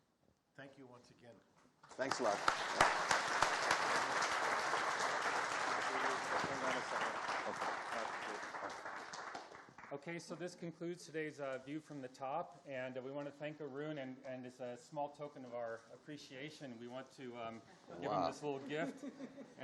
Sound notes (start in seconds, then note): 1.9 audience applauding